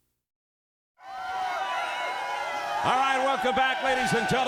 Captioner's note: crowd cheering